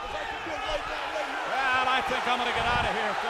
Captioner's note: crowd chatter